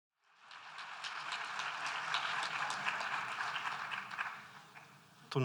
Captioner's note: applause